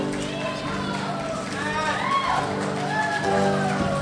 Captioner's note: crowd cheers